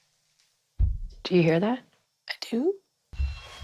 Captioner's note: thuds continue; alarm blares